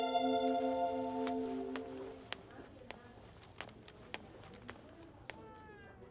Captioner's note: Footsteps